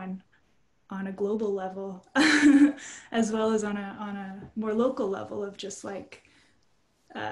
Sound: chuckles

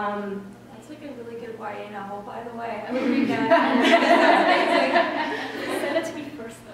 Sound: laughter

